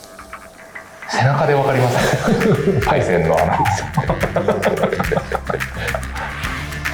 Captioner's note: laughs